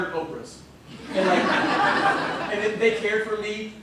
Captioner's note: laughter